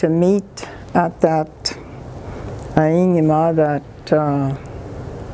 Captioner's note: ojibwe language